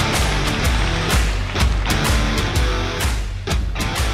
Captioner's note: audience clapping; upbeat music